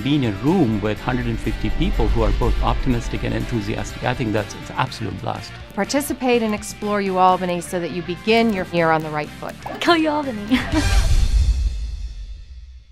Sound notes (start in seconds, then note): 9.6 laughs